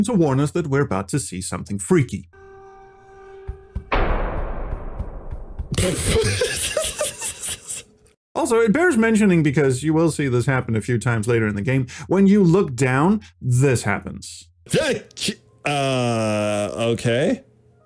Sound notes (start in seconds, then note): 5.8 laughs